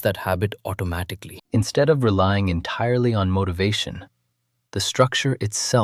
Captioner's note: thoughtful